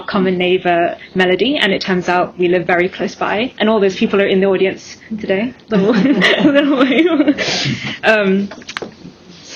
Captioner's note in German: haha